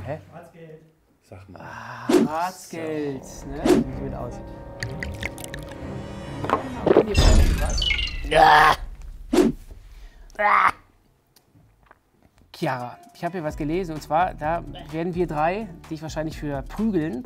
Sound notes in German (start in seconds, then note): 8.2 Ekelgeräusche